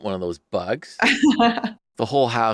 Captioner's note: laughs